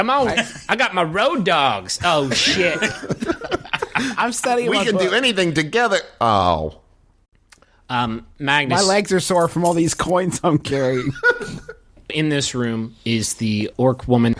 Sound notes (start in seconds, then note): 2.2 laughter